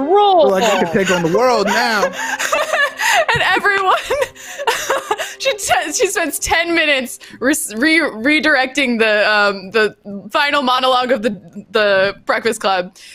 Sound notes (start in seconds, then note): 3.1 laughing